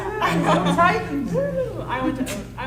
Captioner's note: audience laughing; cheers